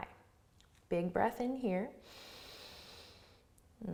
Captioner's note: inhales